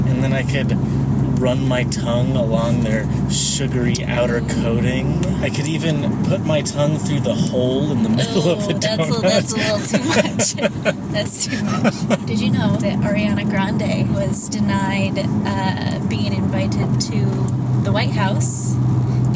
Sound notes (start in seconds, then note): 7.5 laughing; 10.5 laughs